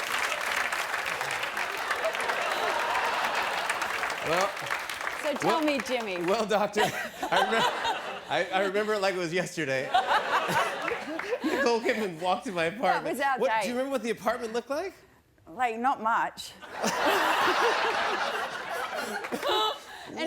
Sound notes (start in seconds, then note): 2.1 laughter; 16.6 laughter